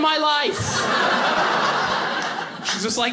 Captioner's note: audience laughing